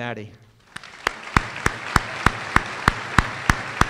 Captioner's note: applause